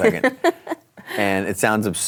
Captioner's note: laughs